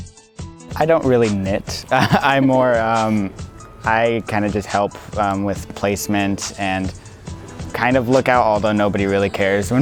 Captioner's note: laughs